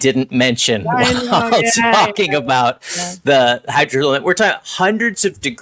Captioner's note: laughing